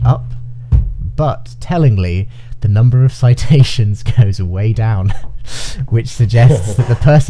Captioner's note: chuckling